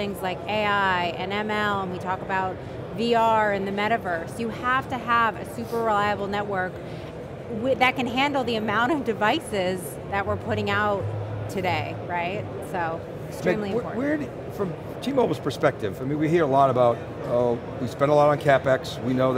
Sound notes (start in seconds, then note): none